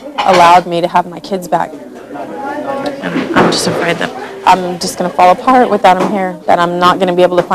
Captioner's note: none